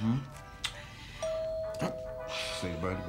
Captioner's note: doorbell ringing